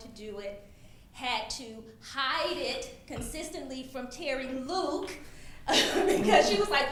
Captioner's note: laughs